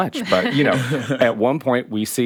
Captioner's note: chuckling